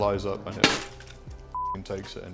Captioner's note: banging; beep